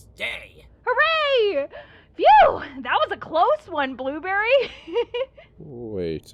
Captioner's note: laughs